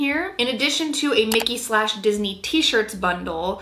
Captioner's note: mouse clicking